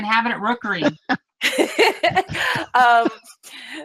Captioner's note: laughs